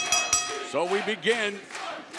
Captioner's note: bell ringing